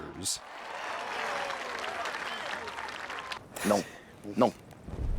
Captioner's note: people applauding